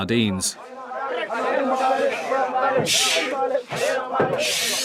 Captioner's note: Senegalese spoken audio